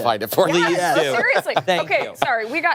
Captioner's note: laughter